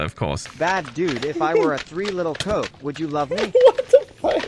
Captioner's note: text-to-speech; laughing